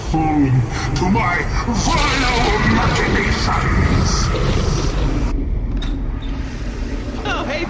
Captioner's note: rumbling Space magic